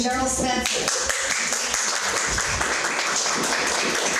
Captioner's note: applauding